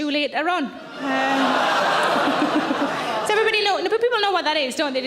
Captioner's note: audience laughing